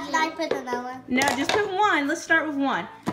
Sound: voiceover

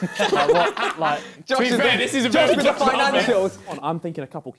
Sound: crowd mumbling

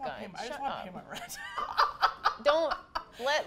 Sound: laughs

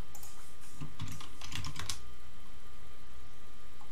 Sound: keyboard clicking

